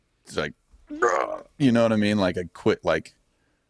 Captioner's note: groans